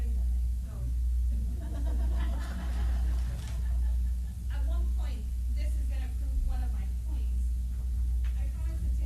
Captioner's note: light laughter